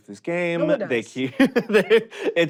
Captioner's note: joel laughs